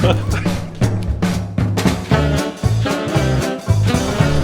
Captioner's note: laughing